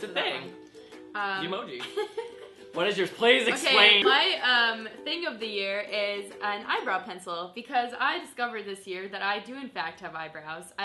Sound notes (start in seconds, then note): 2.0 laughs